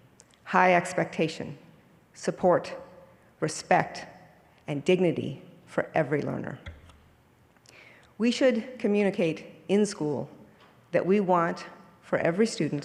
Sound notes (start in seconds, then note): none